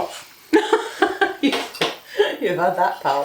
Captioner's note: gigglin